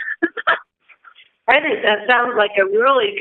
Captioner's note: chuckle